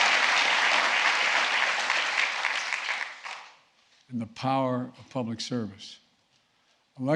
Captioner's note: applause